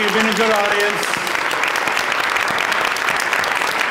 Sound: applause

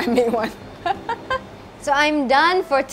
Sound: laughs

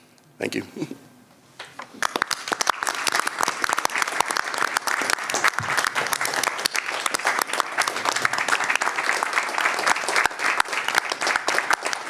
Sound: applause

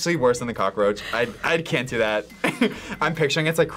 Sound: laughs

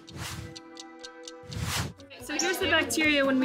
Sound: clock ticking

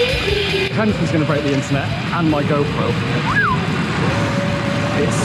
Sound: whistles

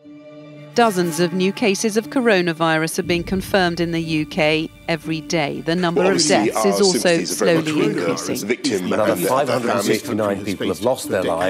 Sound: audio of overlapping news reports

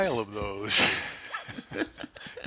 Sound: laughter

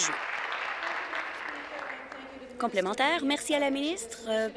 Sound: applause

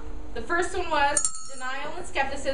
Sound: bell ringing

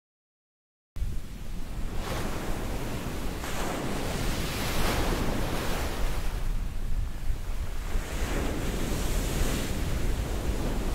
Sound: sound of waves

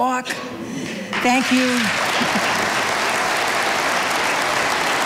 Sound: audience applauding

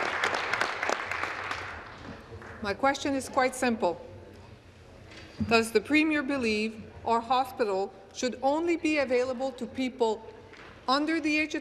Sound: applause

